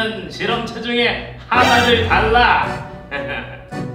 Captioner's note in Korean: 빠밤, 효과음